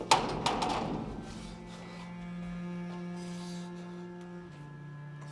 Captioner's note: breathing harshly